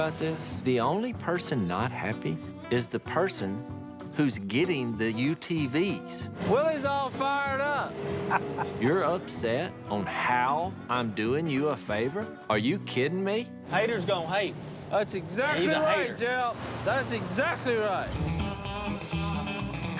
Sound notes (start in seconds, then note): 8.1 laughs